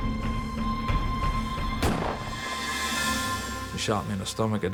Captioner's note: gunshot